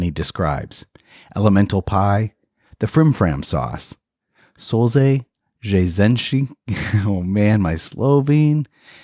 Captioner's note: slovene 00:33:17